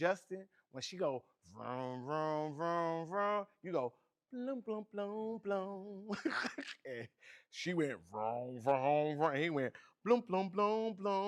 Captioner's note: imitates previous vocals; laughs